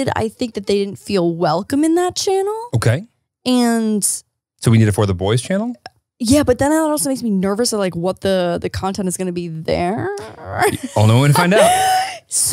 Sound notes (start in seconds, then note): 10.2 laughs